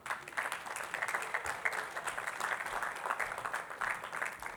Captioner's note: attendees clapping